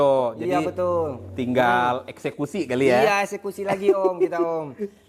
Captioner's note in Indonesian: tertawa